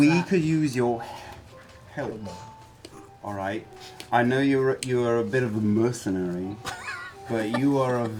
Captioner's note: slurring